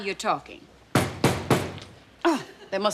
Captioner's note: thumping on door